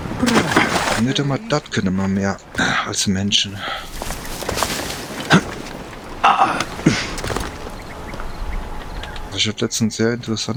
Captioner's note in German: räuspern